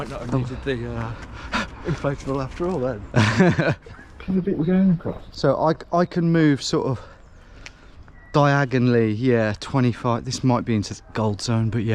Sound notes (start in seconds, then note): 3.1 laughs